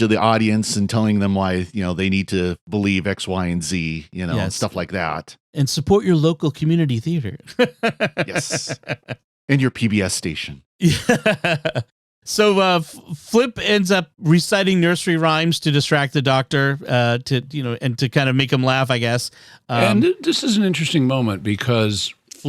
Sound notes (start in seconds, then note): 7.4 laughter; 10.8 laughter